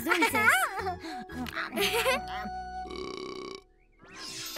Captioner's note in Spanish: Pearl mastica y eructa